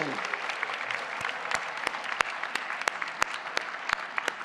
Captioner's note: applause